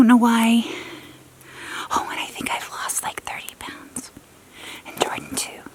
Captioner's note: whisper